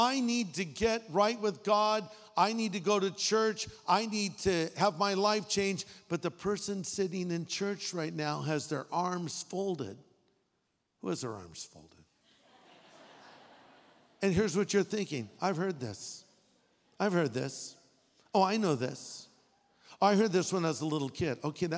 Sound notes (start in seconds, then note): 12.4 audience laughing